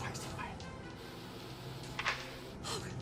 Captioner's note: door closes